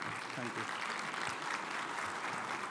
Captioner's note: audience clapping